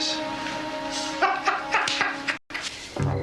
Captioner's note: laughing